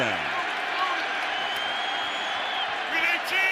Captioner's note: crowd cheers